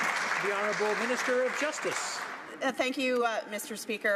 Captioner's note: some Applause